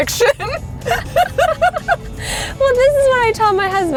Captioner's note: both laughing